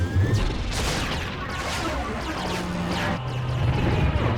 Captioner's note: gunships firing